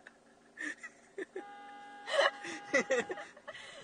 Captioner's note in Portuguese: Risos; Som de buzina; Risos